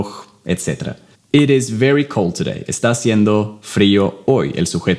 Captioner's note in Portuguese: Inglês